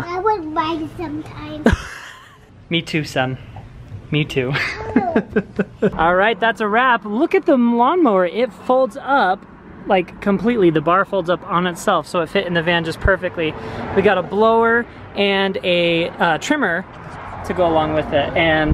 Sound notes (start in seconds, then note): 4.6 laughs